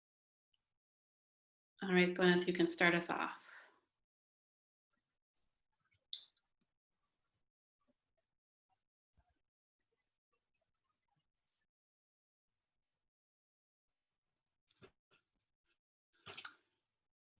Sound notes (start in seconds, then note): 5.6 silence